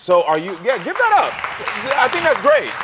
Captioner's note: audience clapping